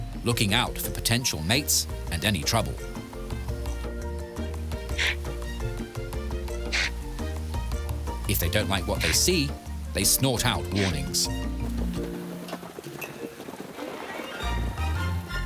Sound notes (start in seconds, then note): 4.9 topi grunting